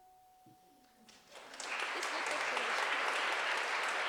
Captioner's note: applause